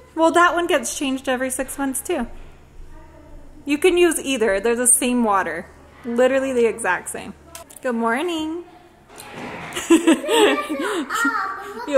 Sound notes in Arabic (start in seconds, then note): 9.7 تضحك